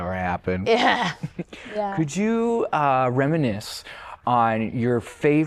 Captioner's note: laughter